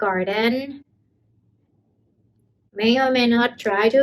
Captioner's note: intense silence